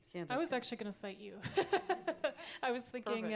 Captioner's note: laughter